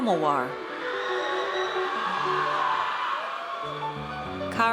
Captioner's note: audience cheers